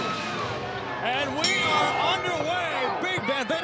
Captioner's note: bell rings